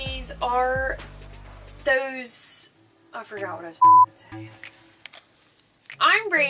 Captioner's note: beep